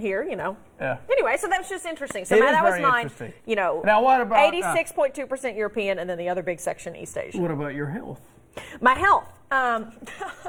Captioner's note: laughter